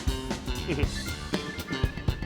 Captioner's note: chuckles